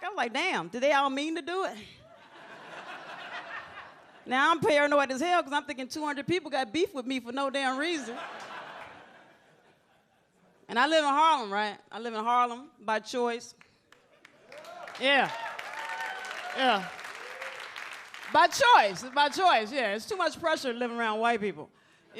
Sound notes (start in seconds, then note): 2.1 audience laughs; 13.9 audience applauds; 14.4 audience cheers